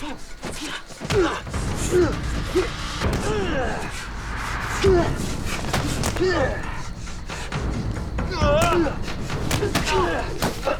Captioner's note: fight sounds